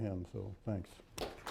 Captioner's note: applause